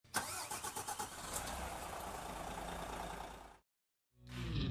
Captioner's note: coach engine roaring